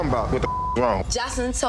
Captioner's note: beep